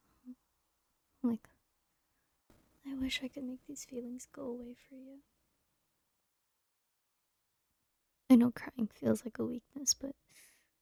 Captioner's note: sigh